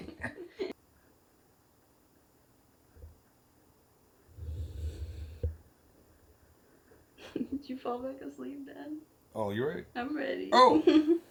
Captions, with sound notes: (Both laugh) (Laughing) did you fall back asleep dad? - Oh, you ready? - I'm ready. (Laughs) - Oh!